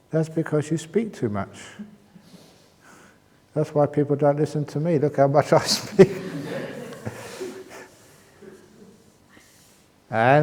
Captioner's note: laughter